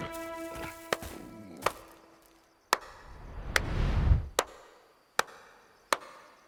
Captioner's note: clapping